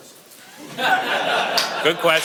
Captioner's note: audience laughs